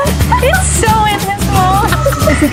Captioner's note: laughing